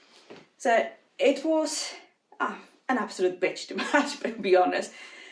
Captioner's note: giggles